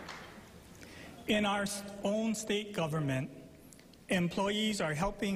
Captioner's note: applause